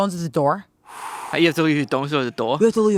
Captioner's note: inhales